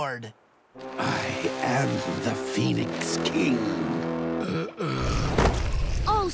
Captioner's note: groaning